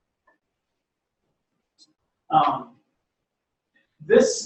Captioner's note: pause